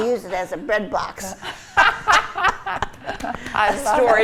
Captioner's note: group laughs